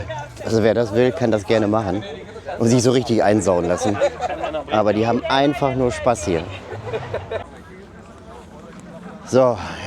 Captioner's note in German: gelächter